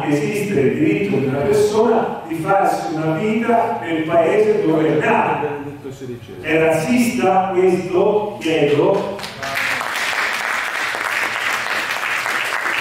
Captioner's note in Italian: Applauso